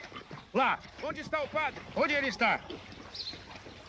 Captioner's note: yelling